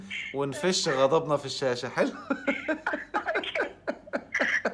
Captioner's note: laughs!